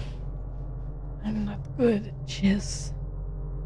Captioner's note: quietly